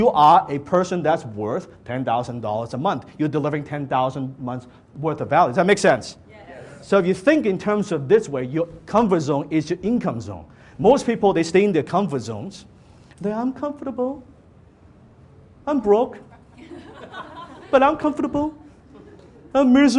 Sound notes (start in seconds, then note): 6.6 audience Members in unison; 16.4 audience laughter